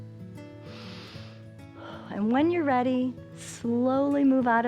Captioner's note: inhales and exhales